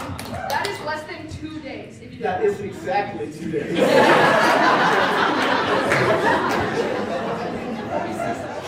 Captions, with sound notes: That is less than two days-- That is exactly two days. (Laughter)